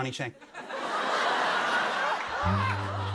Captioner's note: laughter